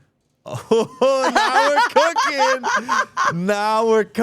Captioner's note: laughing